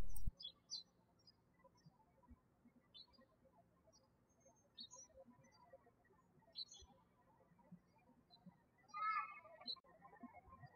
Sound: birds chirping

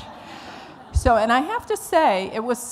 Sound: laughter

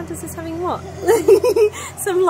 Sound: both giggle

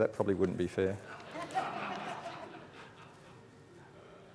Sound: audience laughing

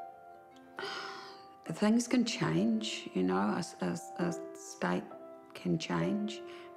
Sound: sighs

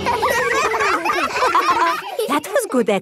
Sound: all giggling

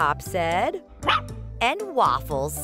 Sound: barking

